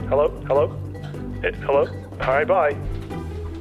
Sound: none

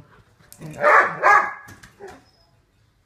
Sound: Duke barks excitedly

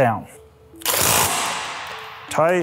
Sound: torque wrench buzzing

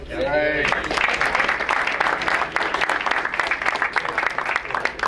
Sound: crowd applauds

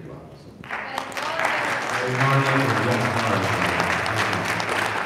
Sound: audience applauding

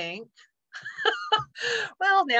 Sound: laughs

